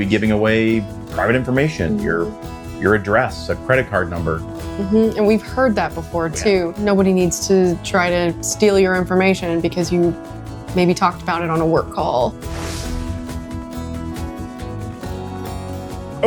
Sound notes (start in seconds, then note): 12.4 air whooshing; 13.4 upbeat music